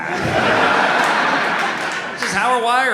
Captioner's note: audience laughs